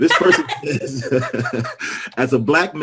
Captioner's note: laughter